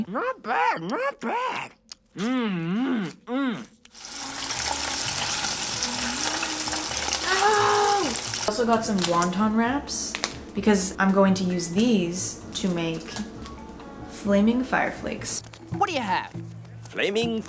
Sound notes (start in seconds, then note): 3.2 screams; 3.9 sizzling